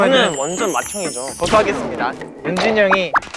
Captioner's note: haha